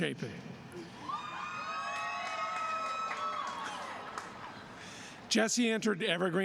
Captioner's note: applause